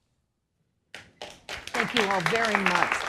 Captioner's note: applause